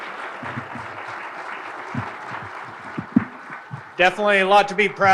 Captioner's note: audience applauding